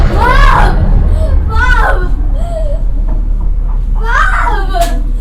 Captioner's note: crying